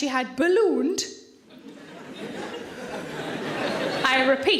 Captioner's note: audience laughing